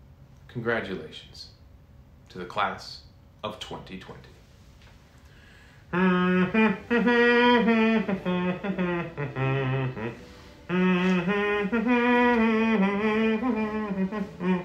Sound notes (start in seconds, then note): 5.8 humming